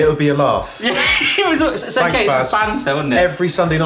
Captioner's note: laughs